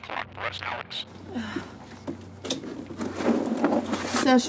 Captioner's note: sighs